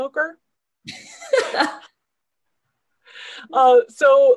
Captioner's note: both laughing